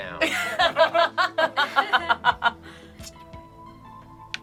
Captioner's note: group laughs